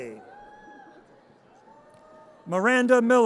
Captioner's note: audience cheers